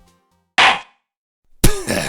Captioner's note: gavel slams!